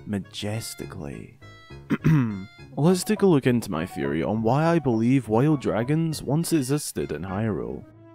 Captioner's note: coughs